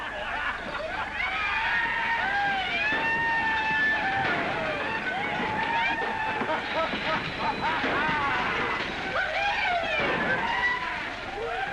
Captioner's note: sounds of chaos & destruction